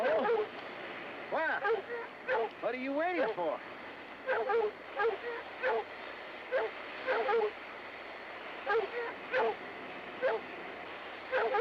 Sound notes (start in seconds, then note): 4.2 dogs barking